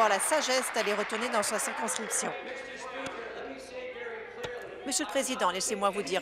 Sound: applause

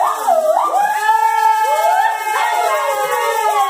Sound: cheering

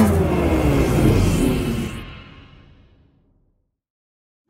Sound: rocketship noise

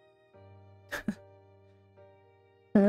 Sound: chuckles

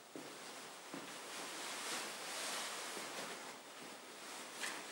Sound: fabric rustling

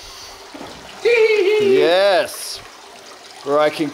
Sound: laughs squeakily

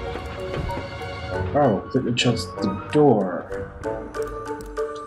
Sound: door

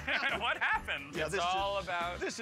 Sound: laughter

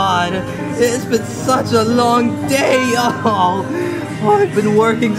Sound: sobs

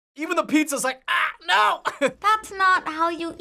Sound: chuckles

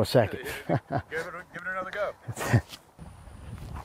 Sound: voiceover

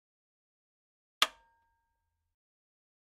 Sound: sound of metal button

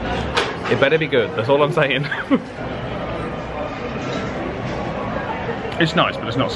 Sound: laughs

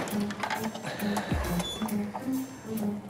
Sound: squeak

